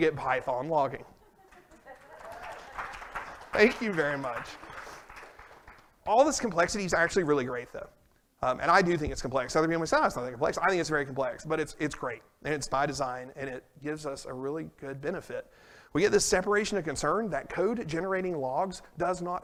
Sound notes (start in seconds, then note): 1.1 laughter; 1.5 applause and cheers